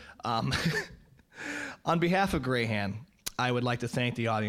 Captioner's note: laughing